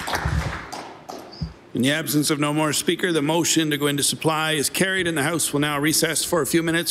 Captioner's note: applause